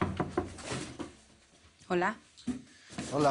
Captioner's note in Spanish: Toques en la puerta